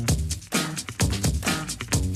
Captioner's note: applause